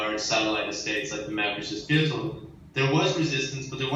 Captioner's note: in foreign language